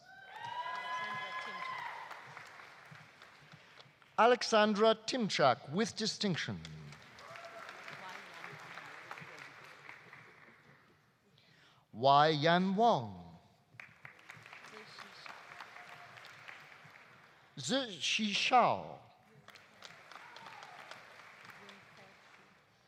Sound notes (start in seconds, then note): 0.0 audience cheering; 0.2 audience applauding; 6.8 audience applauding; 7.1 audience cheering; 13.7 audience applauding; 19.3 audience applauding